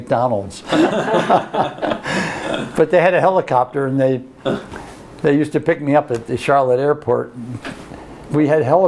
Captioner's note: laughter